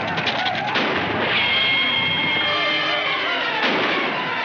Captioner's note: gunshots firing